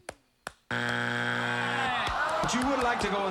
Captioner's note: buzzer